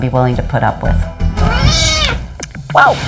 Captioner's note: kitten yowling